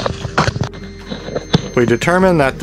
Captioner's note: beep sound from multimeter